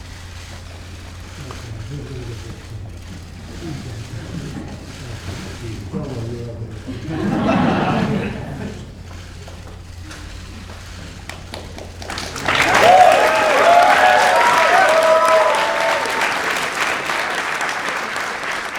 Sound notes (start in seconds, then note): 6.6 applause